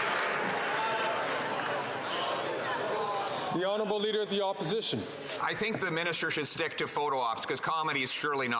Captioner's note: some Applause